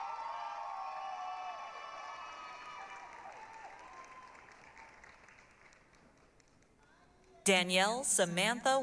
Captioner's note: applause, cheering